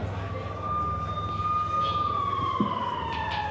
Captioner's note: siren blaring